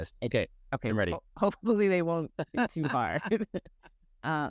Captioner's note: laugh